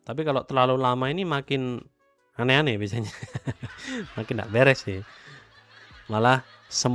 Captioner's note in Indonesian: tertawa